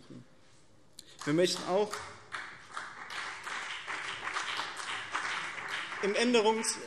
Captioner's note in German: Beifall BÜNDNIS 90/DIE GRÜNEN und vereinzelt CDU